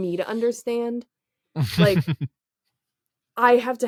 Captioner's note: laugh